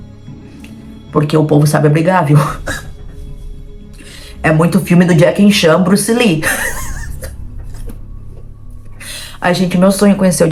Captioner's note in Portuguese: risos